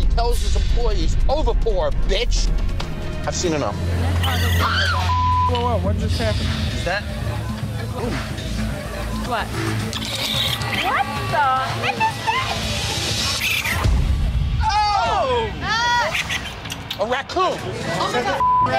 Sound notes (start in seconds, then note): 4.2 screams; 5.0 beep; 9.9 animal squeals; 13.0 animal squeals; 18.3 beep